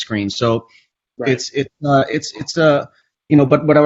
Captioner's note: stammers